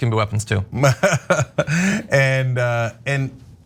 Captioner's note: laugh